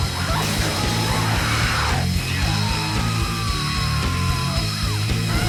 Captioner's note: creature shrieking